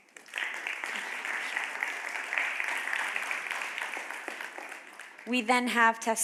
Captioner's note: applause